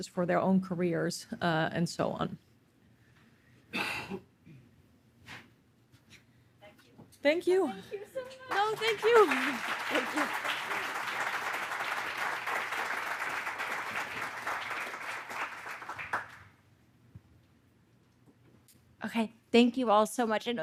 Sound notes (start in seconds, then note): 11.6 audience applauding